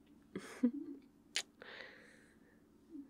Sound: kiss

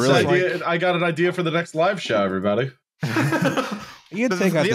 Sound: laughter

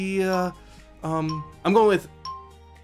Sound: countdown timer ticks down

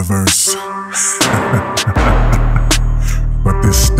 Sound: chuckle

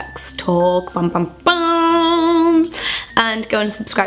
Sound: imitates ominous tones

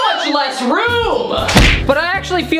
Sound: table smacking noise

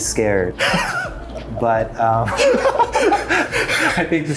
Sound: both laughing

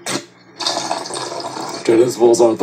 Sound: water leaking

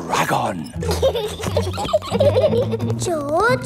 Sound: both giggling

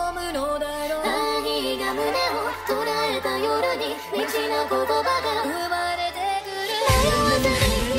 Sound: laughing

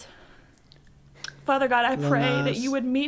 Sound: clicks tongue

